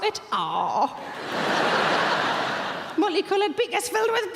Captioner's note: audience laughing